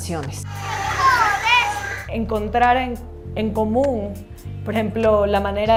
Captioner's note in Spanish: Voces de niños jugando